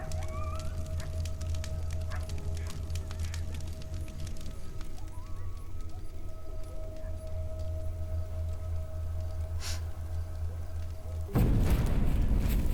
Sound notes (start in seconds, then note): 0.2 fire crackling; 9.6 sniffs